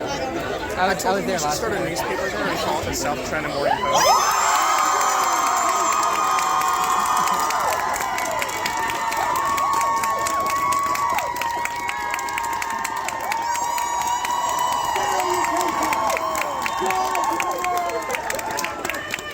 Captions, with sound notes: [crowd cheers] Salutations! Joy to the world!